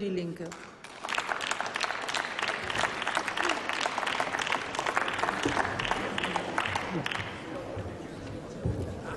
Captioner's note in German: Applaus